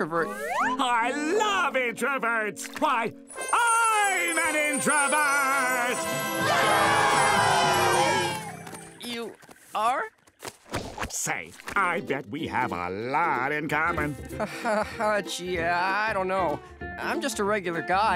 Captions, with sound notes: I love introverts. Why, I'm an introvert! [cheering] You are? Say, I bet we have a lot in common. Gee, I don't know. I'm just a regular guy.